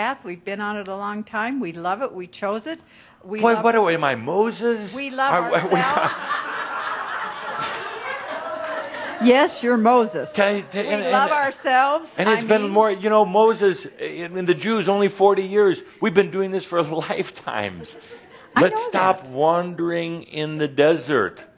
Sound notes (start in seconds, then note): 5.3 laughter